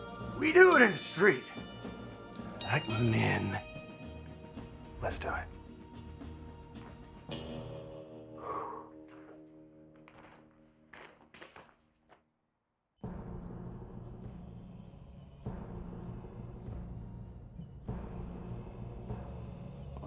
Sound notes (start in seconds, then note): 8.2 breathes deeply; 13.0 suspenseful music